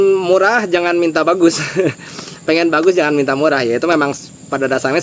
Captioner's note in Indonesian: tertawa